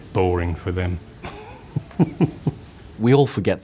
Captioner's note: chuckles